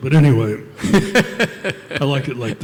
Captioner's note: laughter